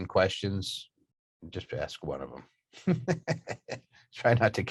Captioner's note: chuckling